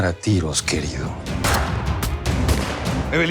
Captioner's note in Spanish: Disparos